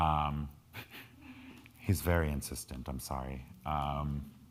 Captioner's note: laughs